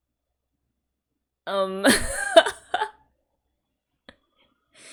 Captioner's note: laughs